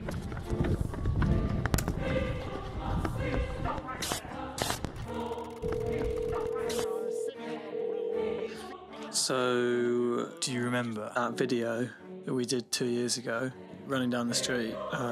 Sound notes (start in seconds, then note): 0.0 footsteps running; 5.5 numbers ticking; 5.6 cellphone ringing